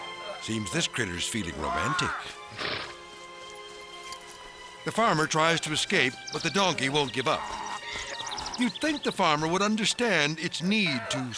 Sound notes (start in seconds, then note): 2.4 farmer shouts